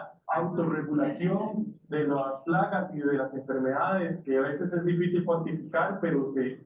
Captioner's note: speaking in foreign language continues